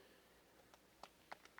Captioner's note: applause